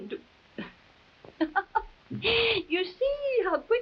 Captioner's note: Marquesa chuckling